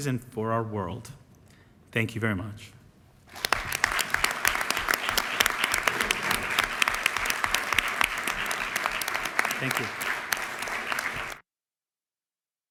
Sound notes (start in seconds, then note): 3.3 applause